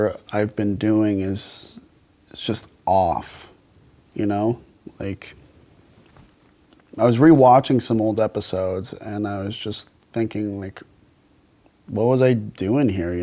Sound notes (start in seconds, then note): none